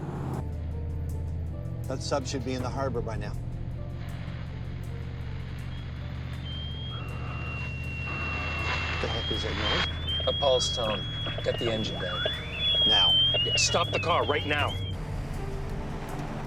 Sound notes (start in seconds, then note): 6.5 alarm; 12.4 alarm